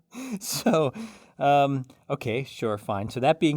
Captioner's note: laugh